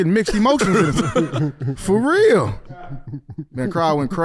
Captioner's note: laughing